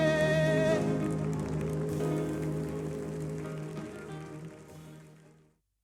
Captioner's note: audience applauding